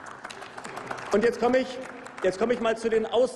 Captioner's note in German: Applaus